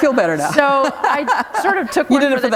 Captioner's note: laughter